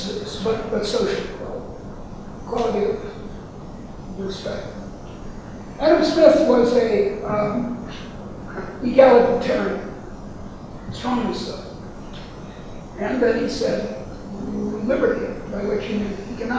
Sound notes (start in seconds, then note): 8.5 rustling drowns out speaker